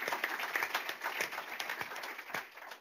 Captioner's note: applause